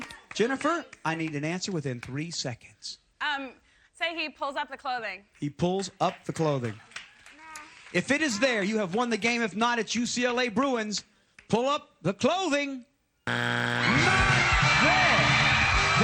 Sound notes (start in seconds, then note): 13.2 buzzer